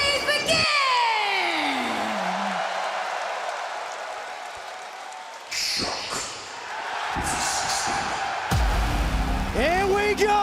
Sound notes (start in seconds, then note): 1.4 crowd cheering